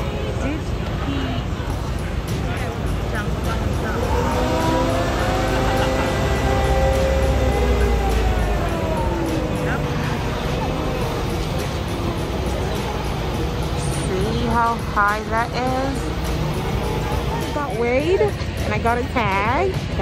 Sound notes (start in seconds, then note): 4.8 loud crane sounds